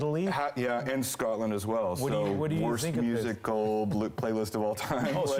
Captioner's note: laughter